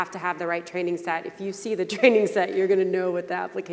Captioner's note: laughing